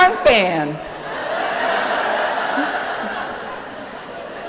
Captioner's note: laughter